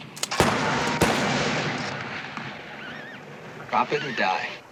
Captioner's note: rifle blasting